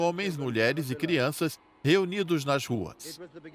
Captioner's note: people cheering; bells ringing